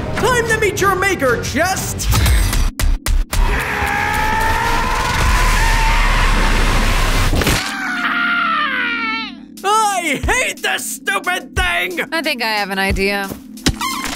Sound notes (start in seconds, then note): 3.0 intense music; 7.6 Roach yells; 13.9 object crumbling